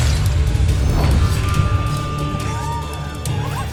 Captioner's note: scepter whoosh; sword swoosh